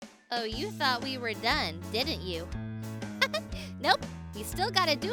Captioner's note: laughs